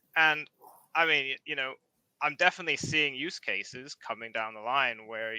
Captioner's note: none